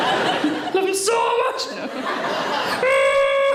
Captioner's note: audience laughing